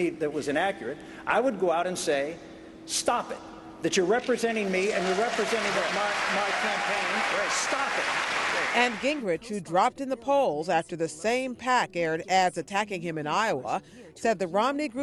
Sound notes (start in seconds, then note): 7.1 cheering and applause